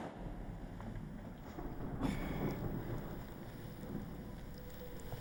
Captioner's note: thunder rumbling; tense music